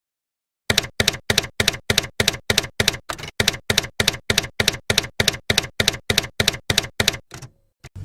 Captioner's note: typewriter keys clacking